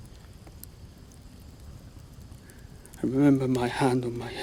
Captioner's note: fire crackling